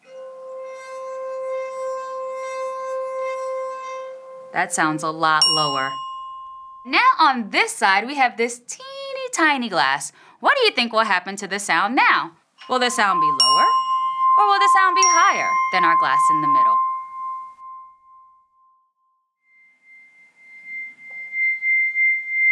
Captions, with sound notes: (bright music) That sounds a lot lower. (bell dings) Now on this side, we have this teeny tiny glass. What do you think will happen to the sound now? Will the sound be lower or will the sound be higher than our glass in the middle? (bright music) (bright music)